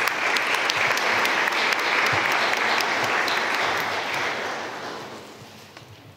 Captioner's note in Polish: oklaski